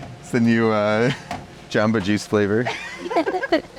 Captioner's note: laughs